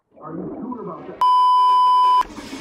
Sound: beeeeeep

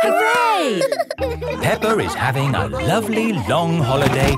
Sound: all laughing

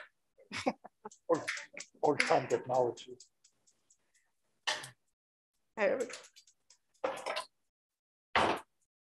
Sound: stove clicking

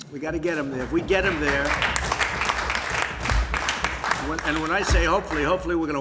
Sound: applause

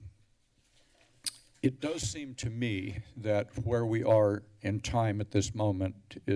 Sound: tongue clicks

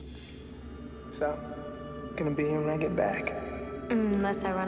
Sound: echoing

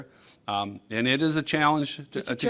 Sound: multiple voices

